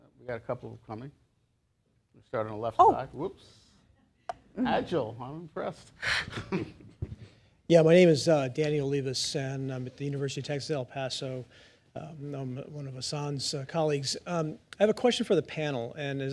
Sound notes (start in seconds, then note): 6.1 laughter